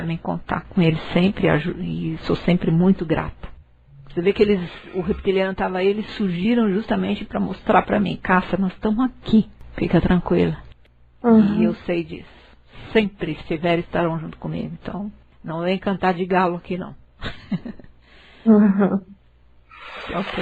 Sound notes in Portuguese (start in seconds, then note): 17.2 risos